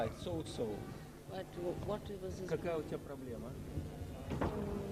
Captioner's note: russian; russian